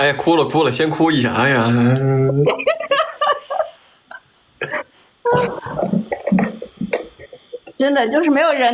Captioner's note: cries